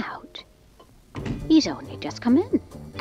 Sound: door closes

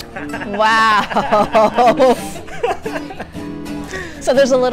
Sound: laughing in background

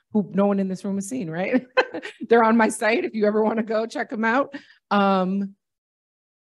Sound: laughter

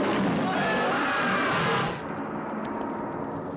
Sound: yelling

